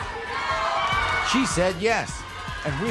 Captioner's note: crowd screams